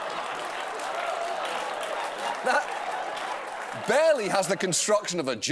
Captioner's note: applause